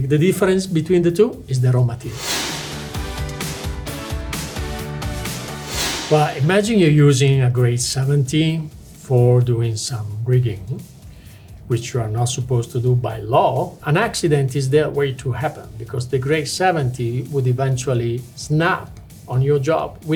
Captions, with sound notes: The difference between the two is the raw material. (screen whooshing) (lively music) But imagine you're using a grade 70 for doing some rigging, which you are not supposed to do by law. An accident is there waiting to happen because the grade 70 would eventually snap on your job